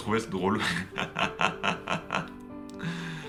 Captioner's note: laughs